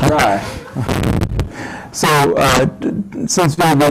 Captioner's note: laugh